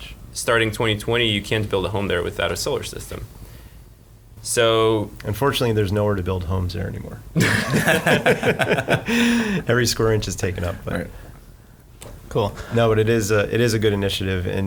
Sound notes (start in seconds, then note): 7.4 laughing